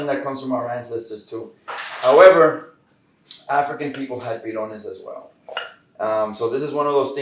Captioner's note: Spanish; Spanish